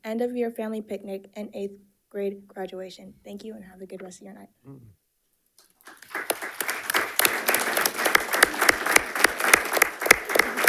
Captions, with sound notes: end-of-year family picnic, and eighth grade graduation. Thank you, and have a good rest of your night. (panelists applauding)